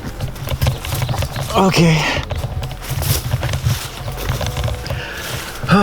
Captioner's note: sighs